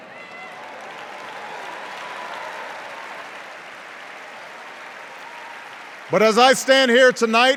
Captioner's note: cheers and applause